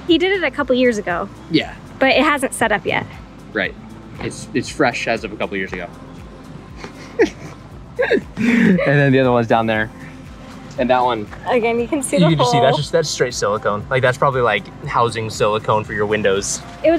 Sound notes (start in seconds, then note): 6.8 laughing